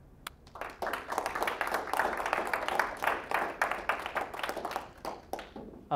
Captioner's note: applause